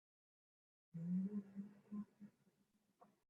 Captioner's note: humming